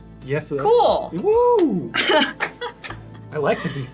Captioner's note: all cheer